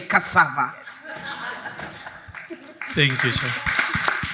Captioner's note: audience laughs